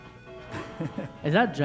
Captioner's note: laughing